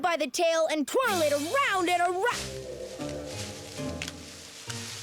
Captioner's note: crack!